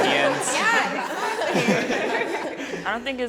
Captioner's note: everyone laughing